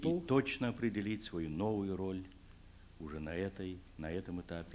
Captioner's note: non-english speech